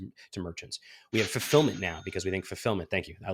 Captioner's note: cash register cha-ching